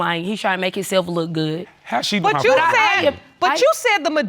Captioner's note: none